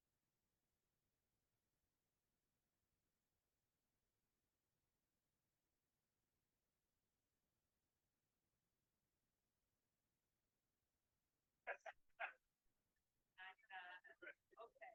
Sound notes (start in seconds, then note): 2.5 no audio-break